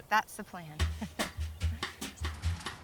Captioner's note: chuckles